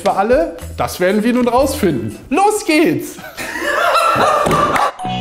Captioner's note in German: Lachen im Off